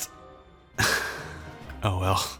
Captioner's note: sighs